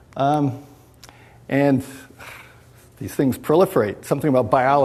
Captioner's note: sighs